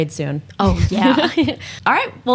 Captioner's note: laughs